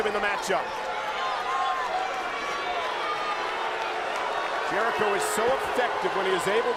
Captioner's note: applause